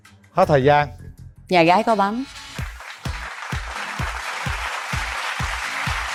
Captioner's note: applause